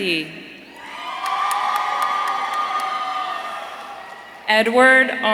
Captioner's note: audience cheering